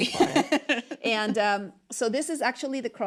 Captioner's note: laughs